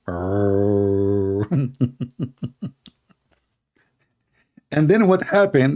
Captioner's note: Ketawa